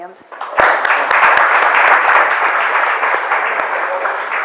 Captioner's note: audience applauds